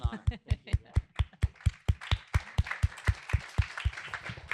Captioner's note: applause